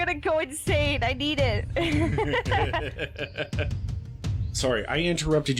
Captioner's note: laughing